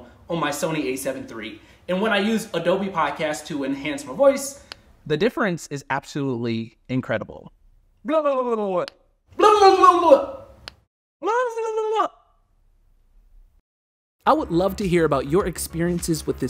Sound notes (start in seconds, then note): 4.6 switch clicks; 9.0 switch clicks